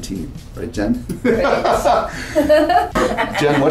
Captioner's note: laughter